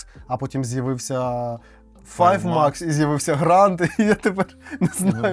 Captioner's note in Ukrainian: сміх